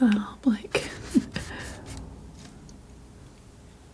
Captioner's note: laughing; sniffing